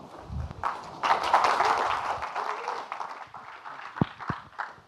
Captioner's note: audience clapping